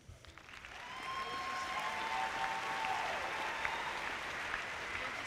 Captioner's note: audience cheer and applauds